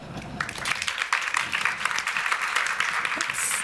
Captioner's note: applause